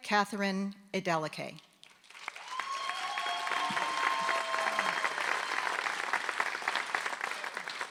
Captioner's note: applause